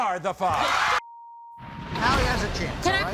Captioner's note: shouting